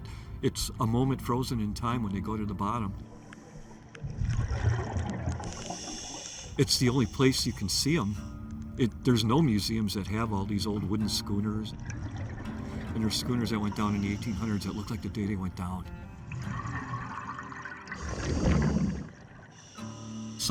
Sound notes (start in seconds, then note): 5.2 diver breathing; 17.7 diver breathing; 18.5 slow guitar music